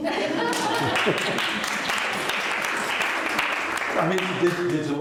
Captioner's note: laughter; applause